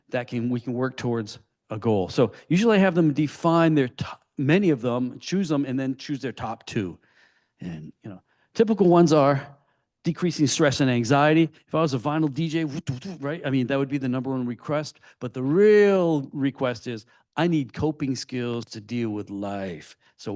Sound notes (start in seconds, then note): 12.8 imitates vinyl scratching